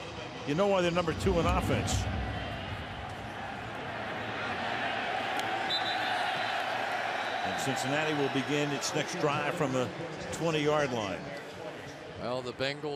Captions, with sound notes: Well, you know why they're number two in offense. [whistle] And Cincinnati will begin its next drive from the 20-yard line.